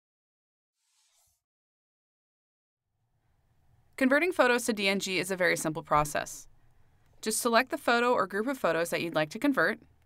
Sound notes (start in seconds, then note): 4.1 voiceover